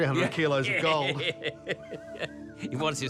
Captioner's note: laughs